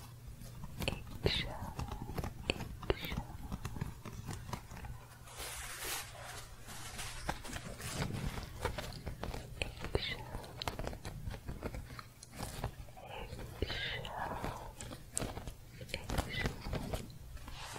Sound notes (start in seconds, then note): 0.0 scratching; 4.4 shuffling and scratching; 10.9 scratching; 17.4 more intense scratching